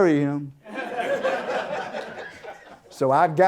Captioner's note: audience Laughter